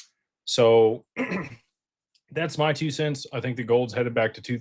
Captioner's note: clears throat